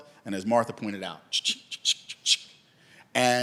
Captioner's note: imitating cash register